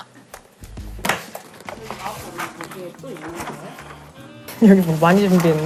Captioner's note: rummaging